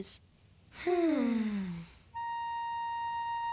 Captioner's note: both sigh